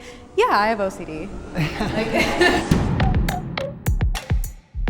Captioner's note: chuckles; upbeat music